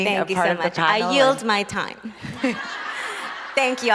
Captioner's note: crowd laughs